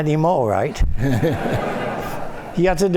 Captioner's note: laughter